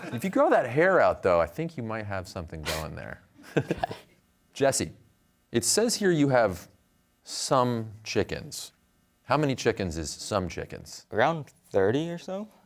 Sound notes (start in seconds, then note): 3.4 chuckles